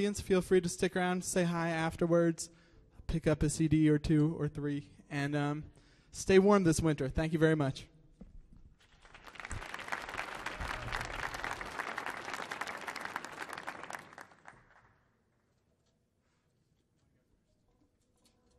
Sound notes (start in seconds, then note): 13.5 applause